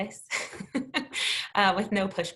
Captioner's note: chuckles